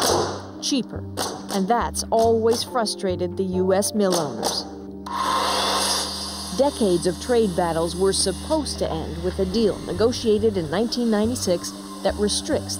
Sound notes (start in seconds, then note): 5.0 buzzing